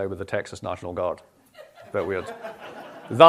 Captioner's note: laughter